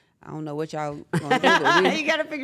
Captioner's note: laugh